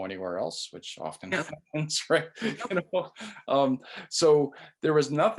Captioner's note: laughs